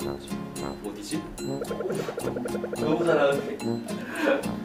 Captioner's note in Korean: 휙휙